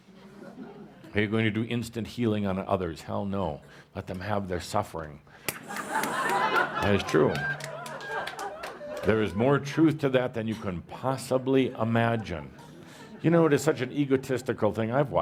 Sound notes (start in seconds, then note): 0.1 laughter; 5.4 laughter and some applause